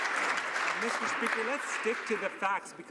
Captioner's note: some Applause